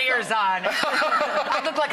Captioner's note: laughter